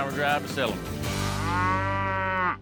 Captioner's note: cow moos